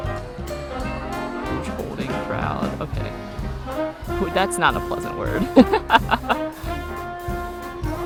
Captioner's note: laughs